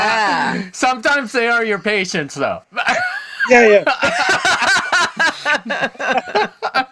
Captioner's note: laughter